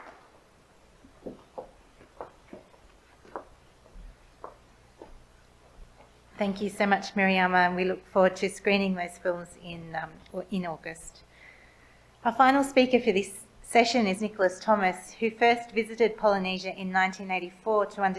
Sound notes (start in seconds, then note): 1.0 steps tapping